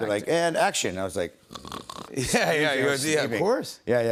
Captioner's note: snoring